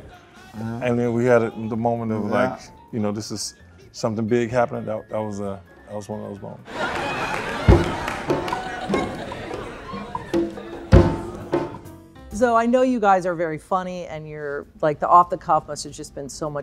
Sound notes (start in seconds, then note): 6.7 laughter; 6.8 bongos playing; 11.7 jazzy music